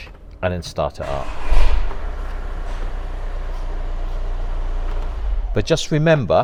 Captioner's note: car starts